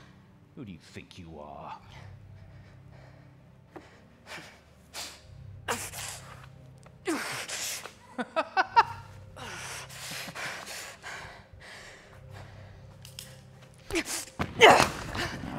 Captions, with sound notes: Who do you think you are? (Laughing)